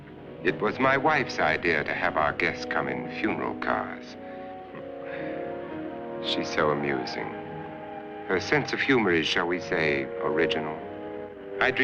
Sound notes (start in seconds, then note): 4.7 laughs